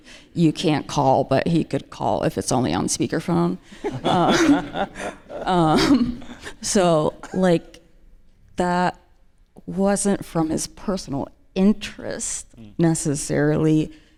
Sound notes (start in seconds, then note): 3.8 panel laughing